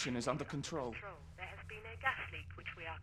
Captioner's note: intercom